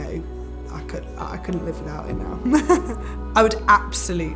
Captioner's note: chuckles